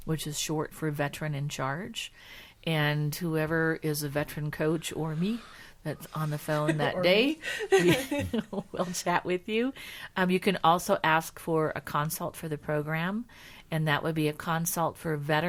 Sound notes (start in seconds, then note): 6.5 laughing